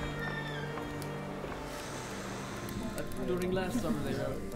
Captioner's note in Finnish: kuorsaa; ihmiset juttelevat, nuotio rätisee